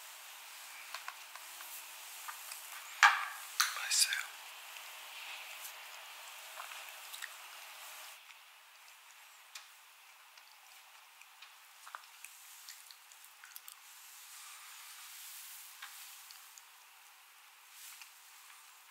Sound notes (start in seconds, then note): 5.2 sound of yakgwa breaking; 11.8 slurp